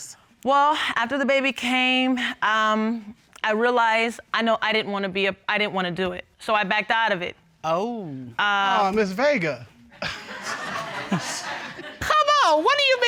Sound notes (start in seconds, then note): 10.0 laughs; 10.0 audience laughs